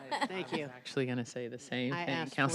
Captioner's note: laughter